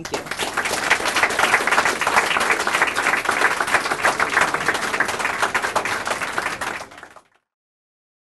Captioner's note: clapping